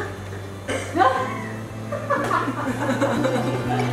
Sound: lots of laughing

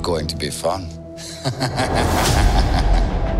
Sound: menacing laughter

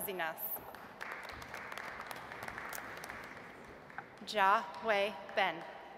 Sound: audience applauds

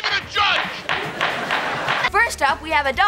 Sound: laughing

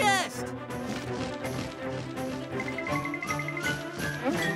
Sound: wings flapping

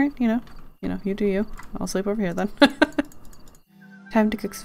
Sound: laughs

